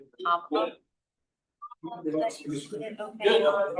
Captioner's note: background conversation